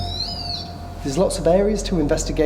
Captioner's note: equipment beeps